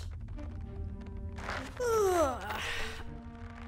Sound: streches and groans

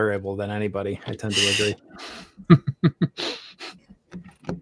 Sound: laughs

